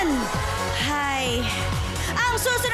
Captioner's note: sighs